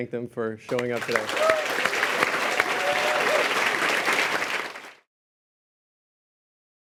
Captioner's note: applause